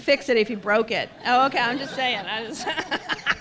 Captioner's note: laughs